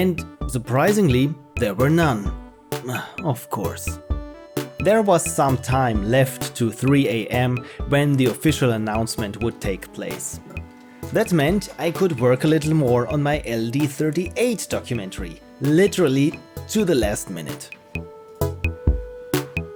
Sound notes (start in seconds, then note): 2.9 sigh